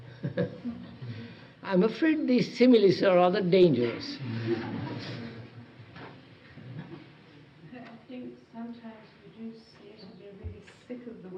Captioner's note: laughs; laughter from group